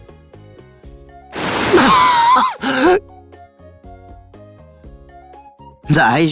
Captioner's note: cough